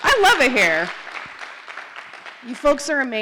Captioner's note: applause